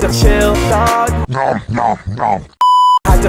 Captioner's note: nom nom nom